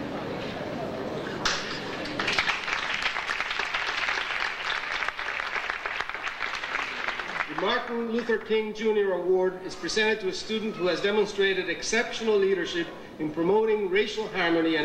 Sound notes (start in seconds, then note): 2.0 audience applauding